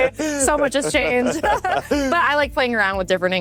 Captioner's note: both laughs